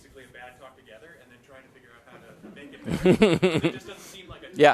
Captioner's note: laughter